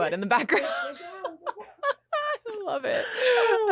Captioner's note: laughter